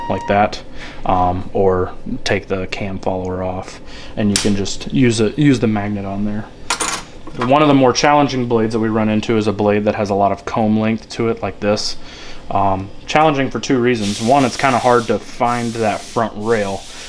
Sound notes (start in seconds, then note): 6.6 metal clicking